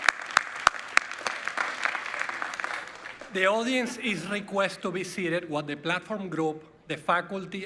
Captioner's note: cheers and Applause